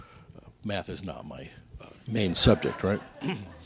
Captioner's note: laughter